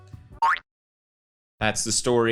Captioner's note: boing